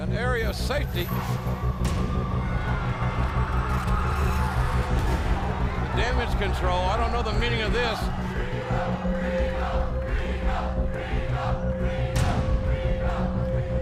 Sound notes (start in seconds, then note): 1.7 crowd cheering